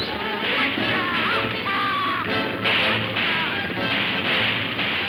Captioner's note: guns firing